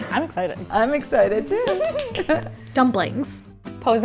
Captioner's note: both giggle